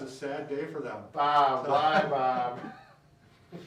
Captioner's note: laughing